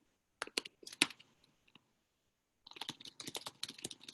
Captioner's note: person typing